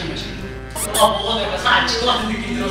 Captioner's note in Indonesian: Chomp